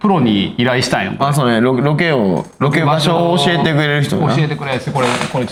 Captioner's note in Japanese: 咳払い